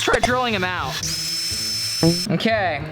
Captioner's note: drill whirring